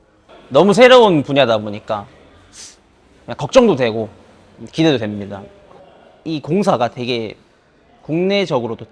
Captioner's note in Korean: 콧방귀